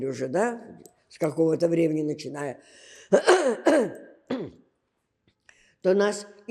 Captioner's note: coughing